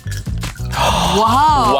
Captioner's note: gasps